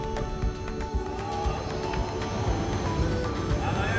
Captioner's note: laughs